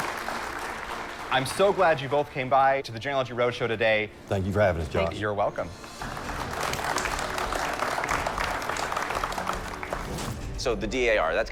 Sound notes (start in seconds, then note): 5.8 applause